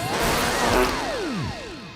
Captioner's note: fart sound